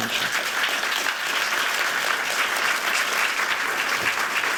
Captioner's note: applause